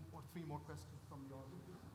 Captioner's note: faintly speaking